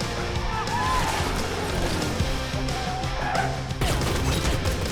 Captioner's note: tires squealing